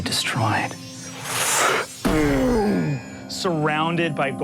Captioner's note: whooshing